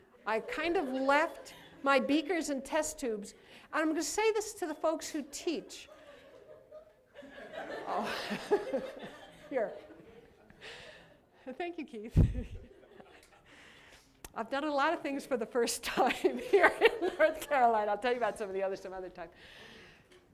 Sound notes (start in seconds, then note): 7.2 laughter; 17.2 laughs